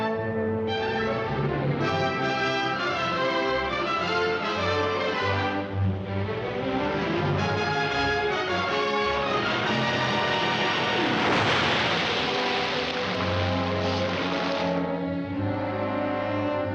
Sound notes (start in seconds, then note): 11.2 big crash